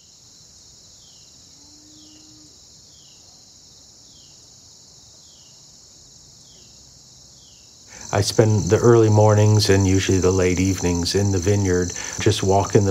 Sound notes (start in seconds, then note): 1.4 crickets chirping